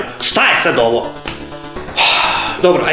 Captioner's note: sigh